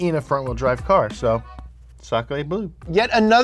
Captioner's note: foreign language